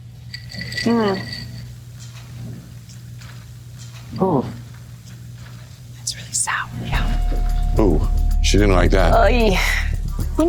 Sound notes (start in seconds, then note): 0.0 ice clinking; 5.5 whispering